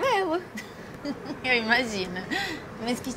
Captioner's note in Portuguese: risos